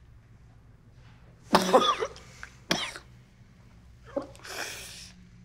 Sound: coughs

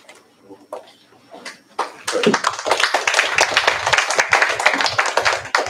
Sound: applause

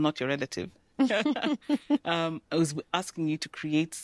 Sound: laughter

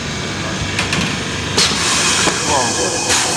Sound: train noise

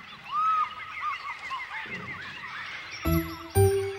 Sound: birds chirp

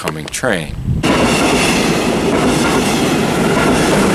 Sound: train noises

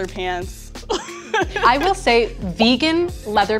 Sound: laughs

